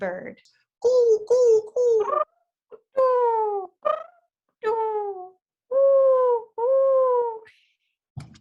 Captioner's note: cooing